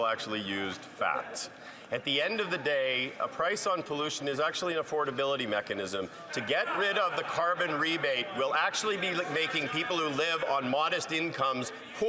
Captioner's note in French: voix de l'interprète